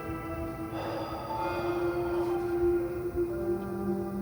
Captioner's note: sighs